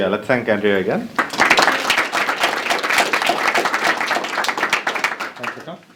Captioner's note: applause